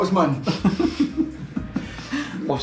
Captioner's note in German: Gelächter